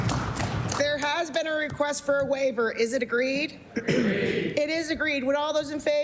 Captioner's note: applause